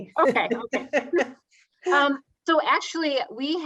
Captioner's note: laughs